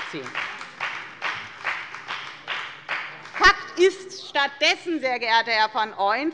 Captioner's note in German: Beifall bei der FDP